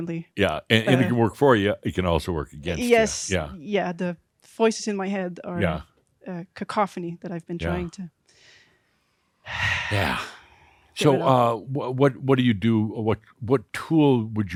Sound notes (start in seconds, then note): 9.3 she sighs